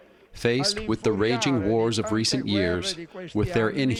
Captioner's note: through translator